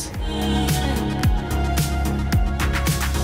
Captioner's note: none